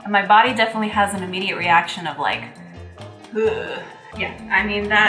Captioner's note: heaving